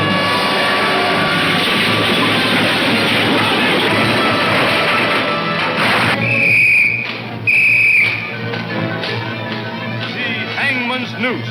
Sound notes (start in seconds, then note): 5.5 whistle tweets